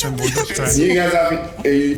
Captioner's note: laughs